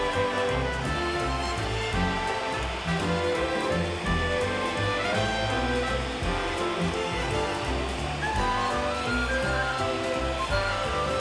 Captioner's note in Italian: Applauso